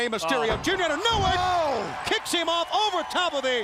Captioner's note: crowd chatter